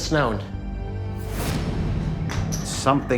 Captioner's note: whoosh